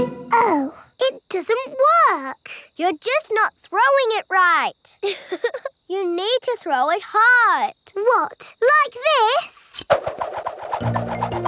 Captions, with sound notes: Oh. It doesn't work. You're just not throwing it right. (CHUCKLES) You need to throw it hard! What, like this?